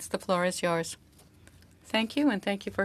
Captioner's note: speaking French